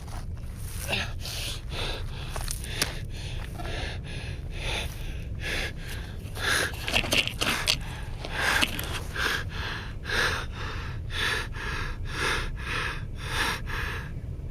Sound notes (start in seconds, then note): 1.4 heavy breathing